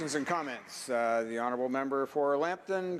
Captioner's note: applause